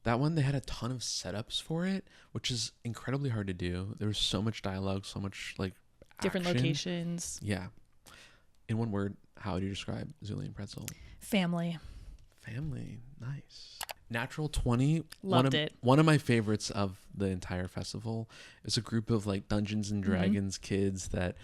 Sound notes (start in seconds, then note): 13.8 computer mouse clicking